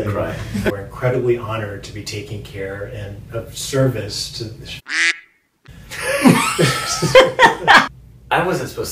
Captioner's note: quack